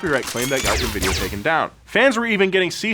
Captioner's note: blue bolts zap; shrill alarm chimes